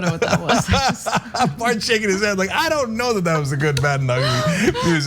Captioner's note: laugh